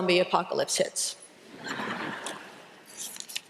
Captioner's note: laughter